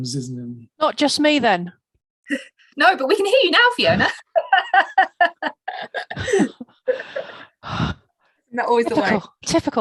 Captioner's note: laughs